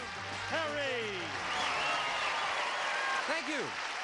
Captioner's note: applause